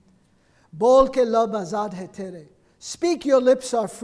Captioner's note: speaking foreign language